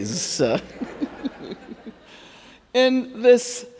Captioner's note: Angela and audience laughing